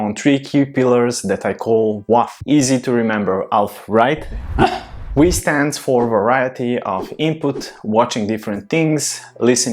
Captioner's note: woof